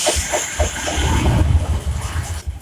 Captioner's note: boom!